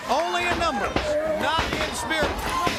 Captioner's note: crowd cheering